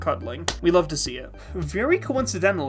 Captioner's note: clap